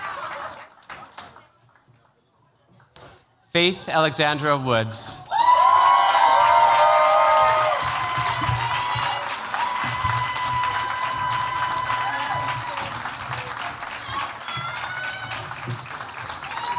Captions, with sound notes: Faith Alexandra Woods. [CHEERS, APPLAUSE]